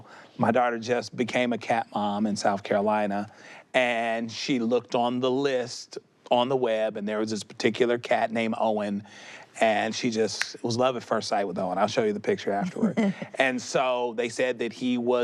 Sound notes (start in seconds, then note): 9.9 snaps fingers; 12.6 chuckles